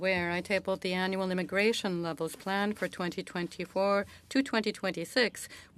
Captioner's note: speaking French